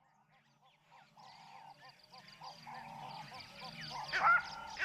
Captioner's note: honking, chirping; animals call and hoot